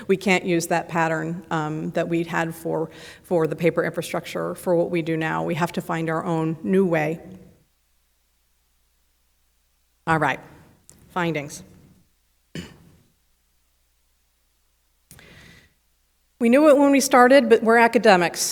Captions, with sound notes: We can't use that pattern that we'd had for the paper infrastructure for what we do now. We have to find our own new way. All right, findings. (clears throat) We knew it when we started but we're academics